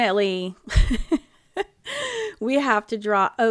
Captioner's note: laughing